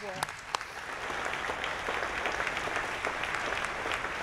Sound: clapping

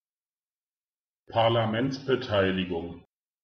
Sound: fast Pronunciation

